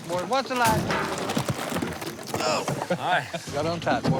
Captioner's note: chuckling